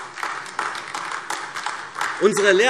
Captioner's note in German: Beifall AfD